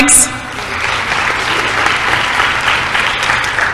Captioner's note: applause